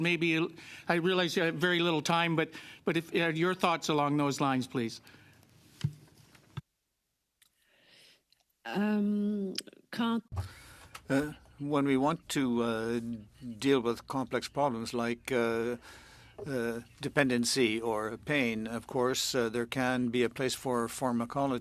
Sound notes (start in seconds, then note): 16.7 speaking French